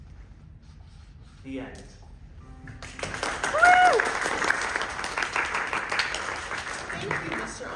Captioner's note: applause